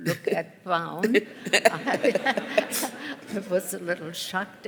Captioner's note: laughter